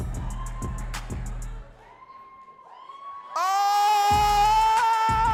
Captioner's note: audience cheering and laughing